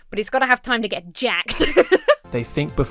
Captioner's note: laughs